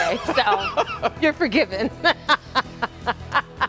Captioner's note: laughter